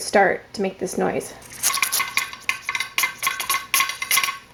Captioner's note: sound of pressure gauge weight rattling